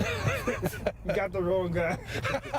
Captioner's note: laughter